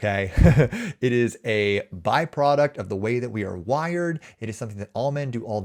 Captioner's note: chuckles